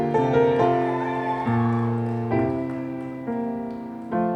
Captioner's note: audience cheering